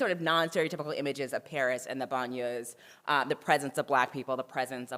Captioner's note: french